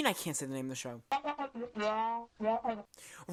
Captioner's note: crew member whispering